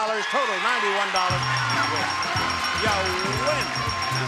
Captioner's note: audience cheering; bell ringing